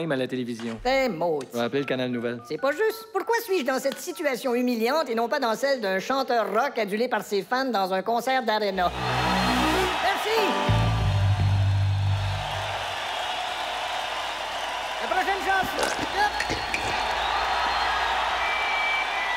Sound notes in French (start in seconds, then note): 9.5 Foule en délire; 13.4 applaudissements; 19.1 applaudissements déchaînés